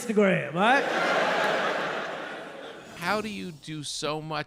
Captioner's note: audience laughing